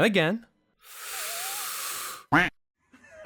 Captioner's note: deep breath